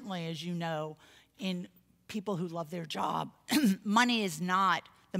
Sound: cough

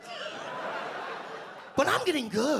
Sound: audience laugh

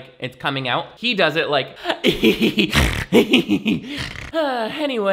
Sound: laughs manically; sighs; snorts

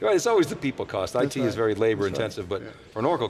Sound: male Voice

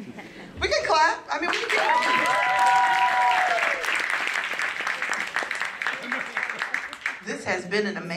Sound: applause

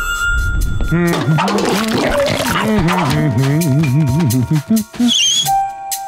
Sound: humming

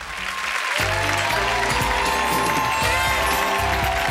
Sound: cheering applause

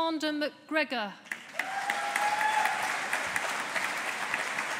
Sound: audience applauding

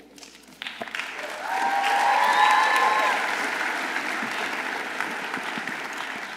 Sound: audience applauding; audience cheering

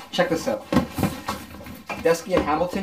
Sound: rustling sound

